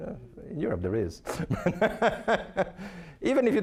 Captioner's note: laughing